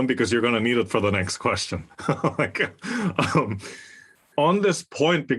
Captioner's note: laugh